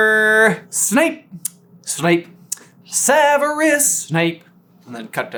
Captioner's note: sing-song